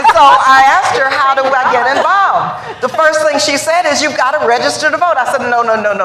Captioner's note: laughter